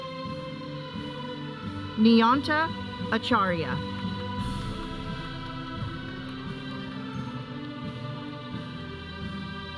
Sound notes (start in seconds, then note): 4.8 audience cheering; 6.5 processional music